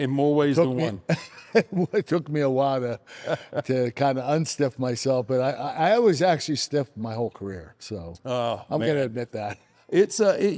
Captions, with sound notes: In more ways than one. (chuckles) It took me a while to kind of unstiff myself but I always actually stiff my whole career, so. Oh, man. I'm gonna admit that.